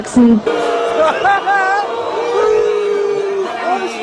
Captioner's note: BOOO! BOOO! in the backround